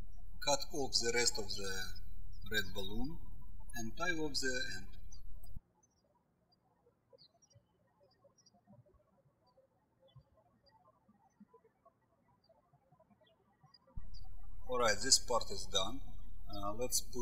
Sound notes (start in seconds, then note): 0.0 birds chirping; 5.9 birds chirping